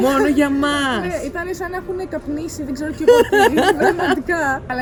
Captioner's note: giggles